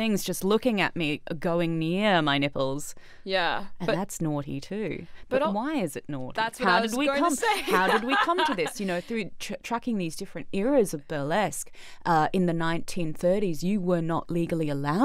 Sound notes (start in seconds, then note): 7.3 laughs